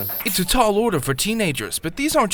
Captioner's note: voiceover